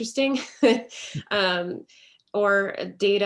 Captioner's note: laughs